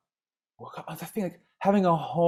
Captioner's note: speaking faintly